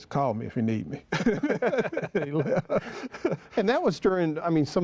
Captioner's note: laughter